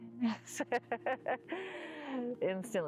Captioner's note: laughter